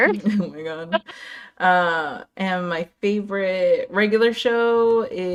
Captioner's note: laugh